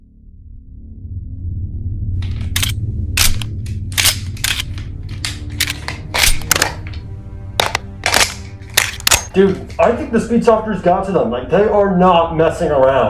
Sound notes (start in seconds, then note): 0.1 ominous music; 3.2 gun fidgeting